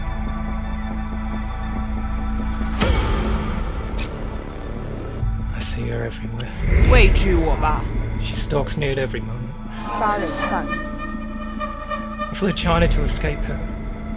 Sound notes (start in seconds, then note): 7.7 Mandarin language; 10.4 Mandarin language; 11.0 haunting music